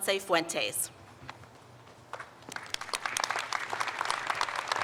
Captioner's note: audience applauds